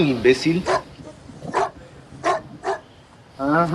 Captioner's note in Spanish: ladrido de perro